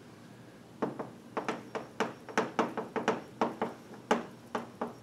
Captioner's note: chalk tapping